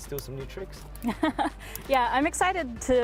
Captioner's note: laughs